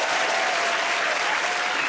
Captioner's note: cheers and applause